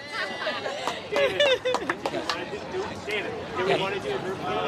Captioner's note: background chatter